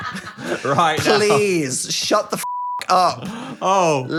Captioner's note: beep